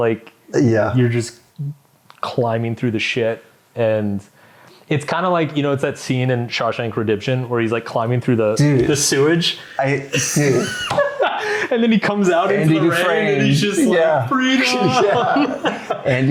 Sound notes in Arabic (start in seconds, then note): 10.0 يضحك